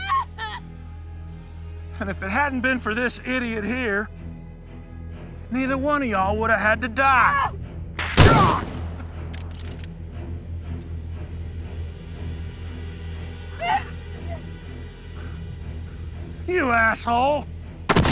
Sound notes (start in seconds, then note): 8.0 gun booming; 8.2 Kane grunting; 13.6 Alexa whimpering; 17.9 shotgun booming